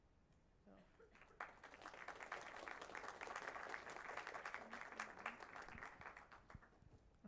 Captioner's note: applause